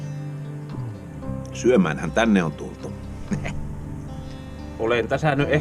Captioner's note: laughter